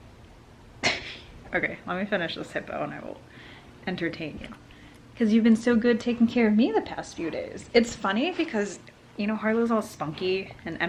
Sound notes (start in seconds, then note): 1.1 laughs